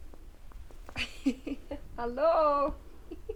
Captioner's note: laughs